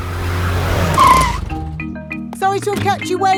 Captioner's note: brakes squeal